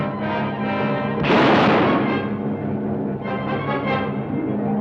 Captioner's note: gun fires